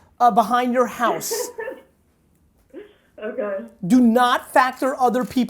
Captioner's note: laughing